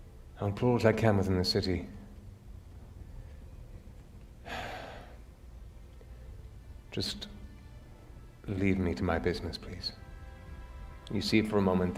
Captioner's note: sighs